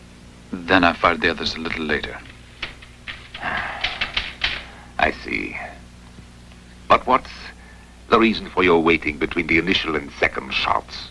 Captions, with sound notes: Then I fired the others a little later. >> (sighing) I see. What's the reason for your waiting between the initial and second shots?